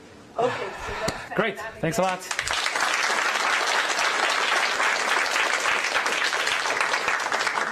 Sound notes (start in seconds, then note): 3.9 applause